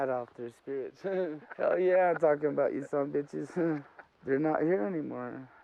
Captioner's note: laughs